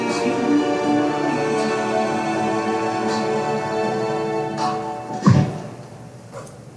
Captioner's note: record scratches